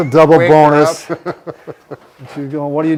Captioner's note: giggles